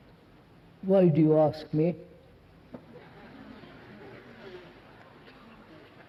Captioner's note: laughter